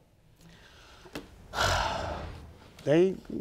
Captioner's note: sighs